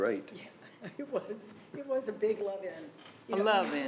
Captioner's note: laughing